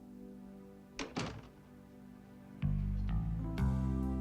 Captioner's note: soft rock music; door thuds